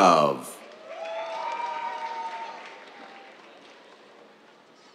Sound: cheers, applause

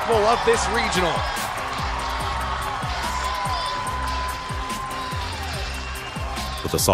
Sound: crowd Cheering

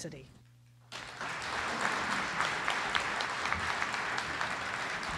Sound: audience applauds

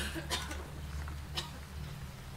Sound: coughs

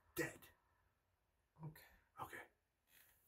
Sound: whispering

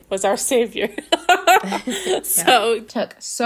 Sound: laughing

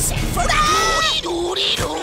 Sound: screams

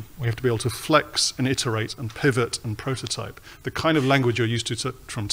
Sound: none

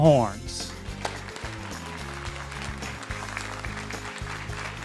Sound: audience clapping

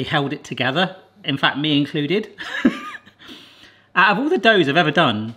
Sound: laughs

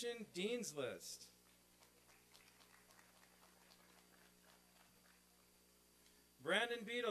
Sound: applause and cheering

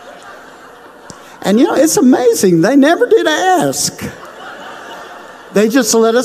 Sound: crowd laughs

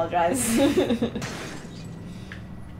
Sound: laughter

